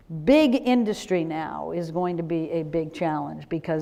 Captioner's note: none